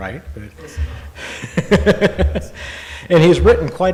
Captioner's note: laughing